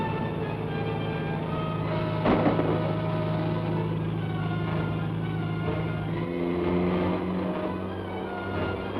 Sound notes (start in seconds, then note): 2.2 gun fires; 4.9 thrilling music